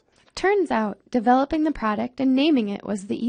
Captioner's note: voiceover